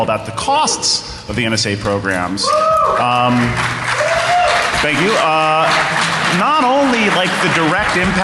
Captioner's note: applause